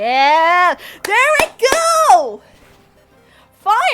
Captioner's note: clapping